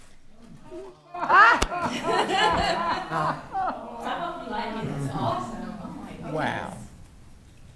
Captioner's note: attendees laughing and reacting positively